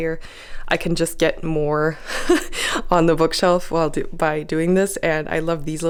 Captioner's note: laugh